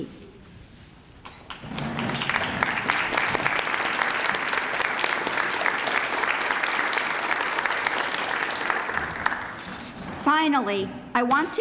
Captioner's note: applause